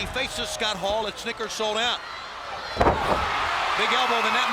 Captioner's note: crowd cheering